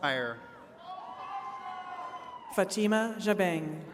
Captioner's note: attendees cheering